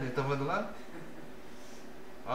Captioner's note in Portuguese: risos